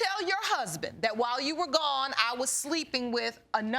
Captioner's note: none